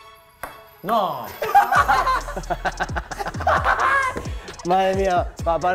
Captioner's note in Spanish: risas